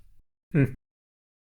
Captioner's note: humph